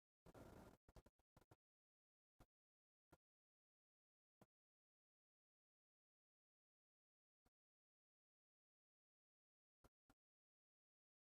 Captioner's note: silence